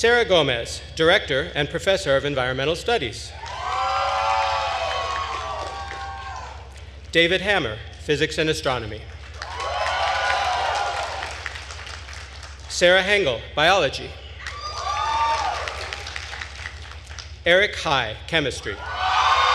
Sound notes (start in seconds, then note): 3.4 attendees cheering and applauding; 9.2 attendees cheering and applauding; 14.4 attendees cheering and applauding